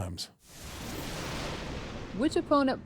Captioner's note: thunder rumbling